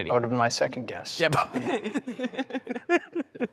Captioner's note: all laughing